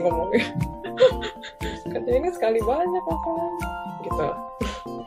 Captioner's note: laughs; laughs